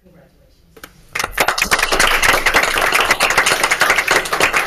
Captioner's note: applause